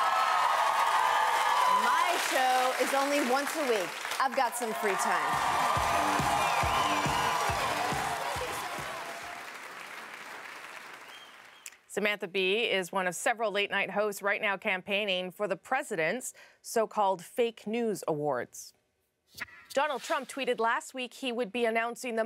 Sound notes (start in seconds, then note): 1.3 cheers and Applause; 7.7 applause